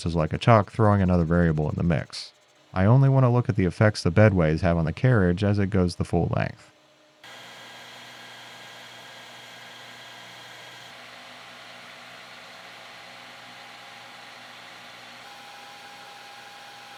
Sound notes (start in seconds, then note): 7.2 lathe whirring